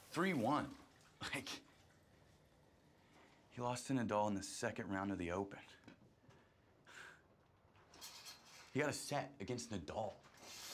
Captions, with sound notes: Three - One. Like... He lost to Nadal in the second round of the Open. (curtain rings scraping) He got a set against Nadal.